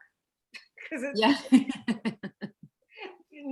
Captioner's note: laughter